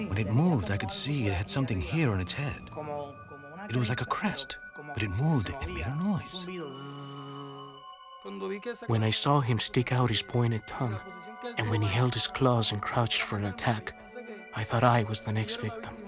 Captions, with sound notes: When it moved, I could see it had something here on its hand. It was like a crest. But it moved and it made noise. [BUZZING] When I saw him stick out his pointed tongue, and when he held his claws and crouched for an attack, I thought I was the next victim.